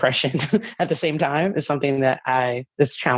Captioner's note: chuckling